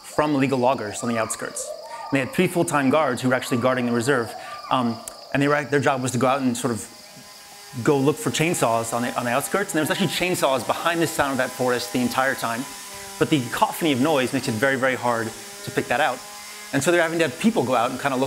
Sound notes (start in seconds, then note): 8.7 chainsaw noises